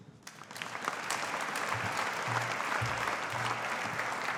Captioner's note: audience applauding